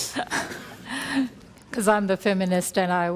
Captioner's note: laughs